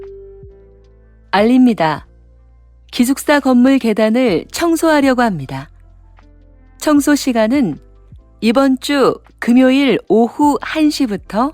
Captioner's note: Korean audio